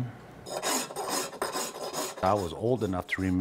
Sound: scratching sounds

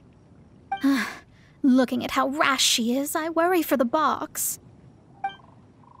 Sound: sigh

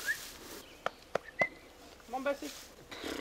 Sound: whistles, Burps again and then continues whistling; keeps whistling

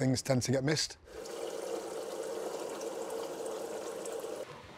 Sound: water running

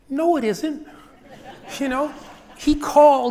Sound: audience laughs

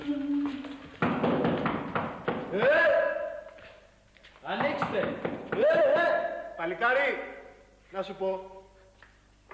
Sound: knocking

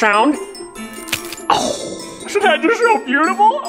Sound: candy cane snapping

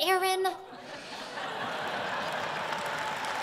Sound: laughter; applause

